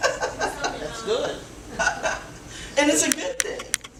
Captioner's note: laughs; speaking from off mic